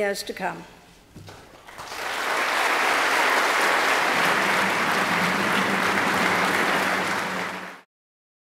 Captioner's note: applause